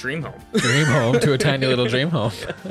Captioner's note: laughs